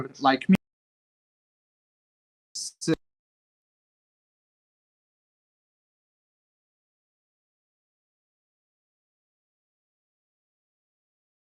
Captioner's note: audio cutting out